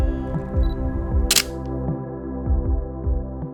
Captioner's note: camera clicking